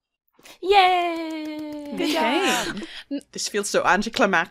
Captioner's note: claps